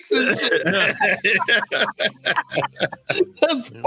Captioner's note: laughs